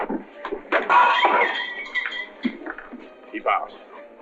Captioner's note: glass shatters